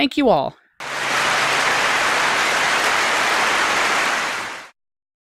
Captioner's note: clapping